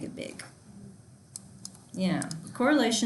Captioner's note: student murmurs